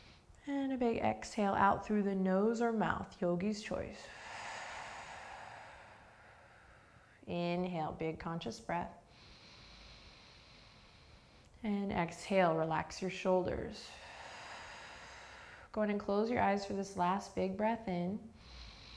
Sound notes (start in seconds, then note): 0.0 inhaling; 4.0 exhaling